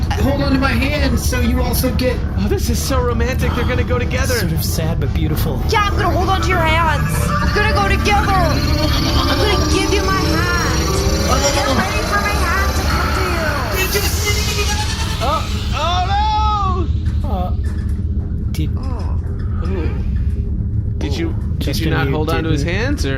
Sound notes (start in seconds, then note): 6.0 hesitant; 15.0 screaming